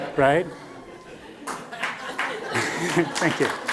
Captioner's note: applause